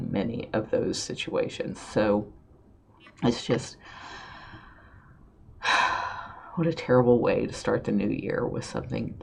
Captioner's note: sigh